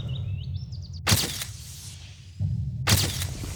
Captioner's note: camera shutter clicks